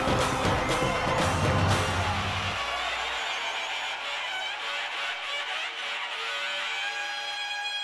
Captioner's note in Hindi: तालियाँ